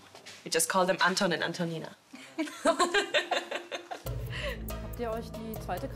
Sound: laughs

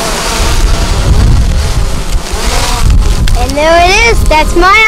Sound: wind blowing

